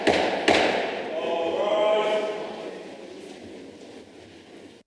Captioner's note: gavel